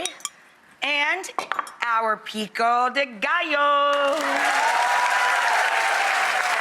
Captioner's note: audience applauds